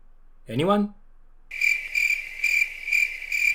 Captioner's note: crickets chirping